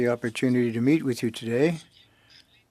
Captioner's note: speaking French